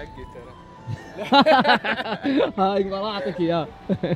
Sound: laughter

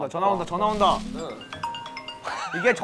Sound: ringing

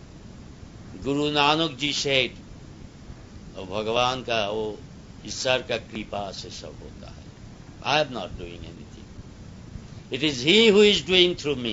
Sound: speaks Hindi

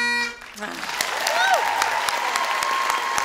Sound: audience applause

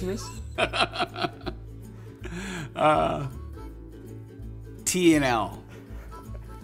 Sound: laughs heartily

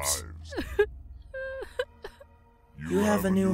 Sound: sobs

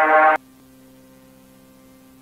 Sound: silent

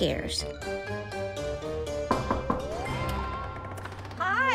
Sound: knocking

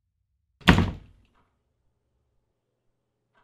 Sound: door slams and sound cuts in

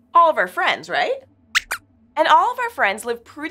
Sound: squeaks squeaks

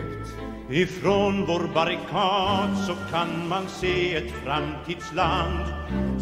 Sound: Swedish

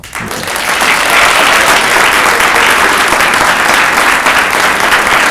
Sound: audience applauds

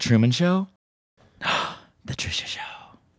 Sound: gasps

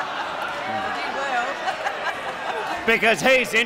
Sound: laughs

